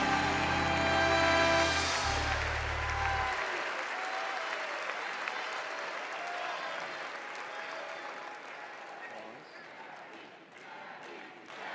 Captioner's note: cheers and applause